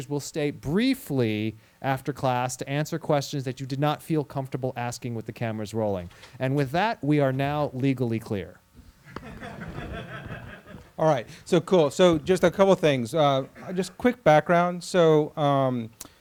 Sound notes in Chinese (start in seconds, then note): 9.1 课堂上笑声